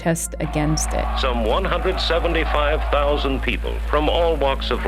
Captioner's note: soundbite of archived recording